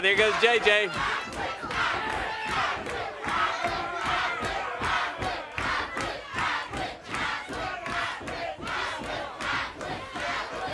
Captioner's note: crowd cheering